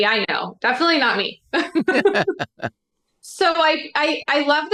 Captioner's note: laughter